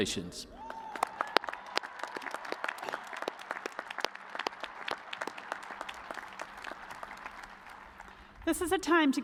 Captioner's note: cheers and applause